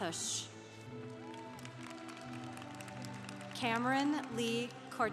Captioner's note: congregation applauding